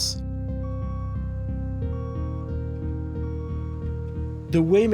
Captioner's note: beeping